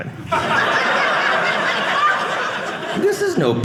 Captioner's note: audience laughing